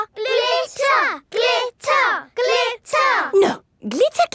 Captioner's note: chanting